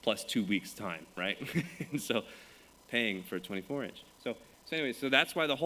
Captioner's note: chuckles